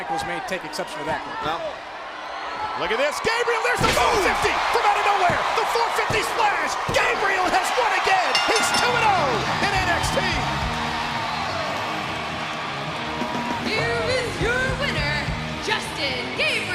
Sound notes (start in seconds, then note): 8.2 bell ringing; 12.8 crowd cheering